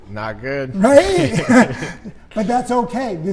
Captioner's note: laughing